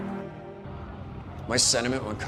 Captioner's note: jet engine rumbles